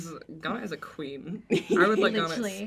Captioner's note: the cast laugh